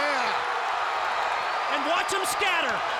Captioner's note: audience cheers